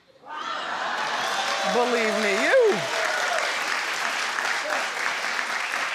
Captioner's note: audience cheers